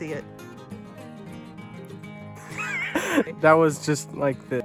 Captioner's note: laughter